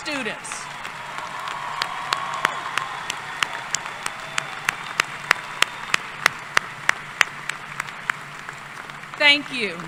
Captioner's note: applause